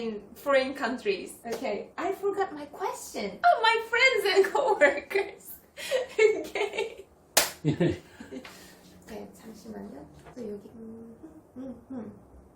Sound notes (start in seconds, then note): 7.6 chuckles; 7.6 laughs